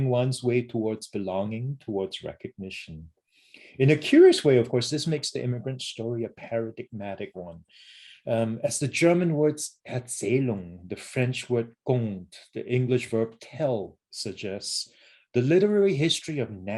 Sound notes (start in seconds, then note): 10.0 german; 11.9 french